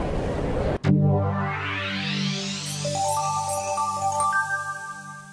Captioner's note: bright electronic tones